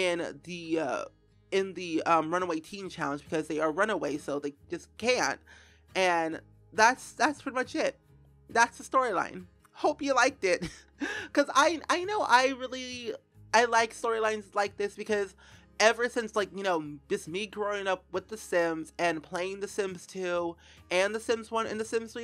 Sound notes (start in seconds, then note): 10.6 slight laugh